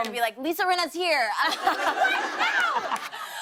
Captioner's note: laughter